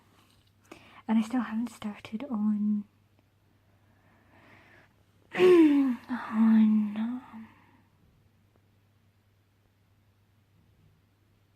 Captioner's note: clears throat